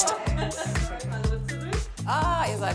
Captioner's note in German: Lachen, lockere Musik